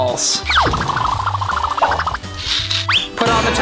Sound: bubbly whistling

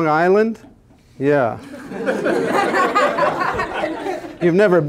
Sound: laughter

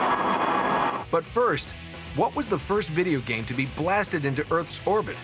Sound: crashing

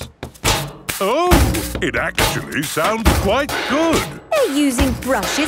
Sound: rhythmic clanging

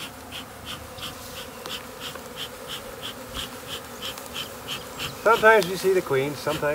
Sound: bees buzzing

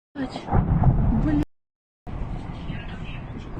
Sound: explosion

